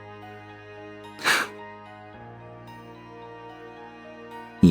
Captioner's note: sigh